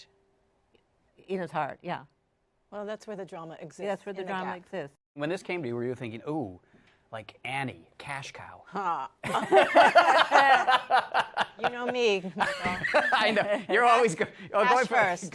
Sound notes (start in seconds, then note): 9.2 laughter